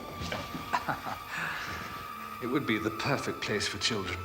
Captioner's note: laughs